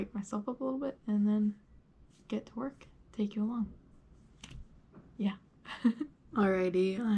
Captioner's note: finger snaps; chuckles